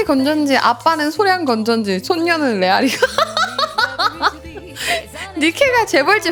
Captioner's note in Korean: 웃음